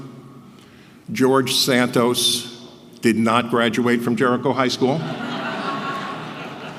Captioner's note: laugh